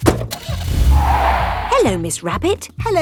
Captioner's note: car starting; tires screeching